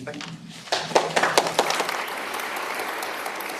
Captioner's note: applause